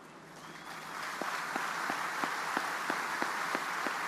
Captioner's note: audience applauding